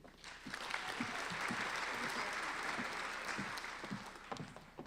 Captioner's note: applauding